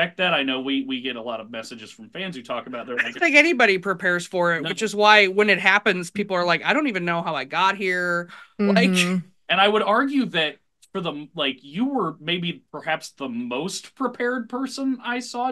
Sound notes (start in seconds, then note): 9.0 laughs